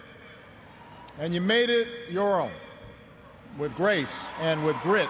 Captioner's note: cheers and applause